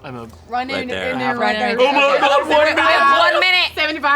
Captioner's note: indistinct chatting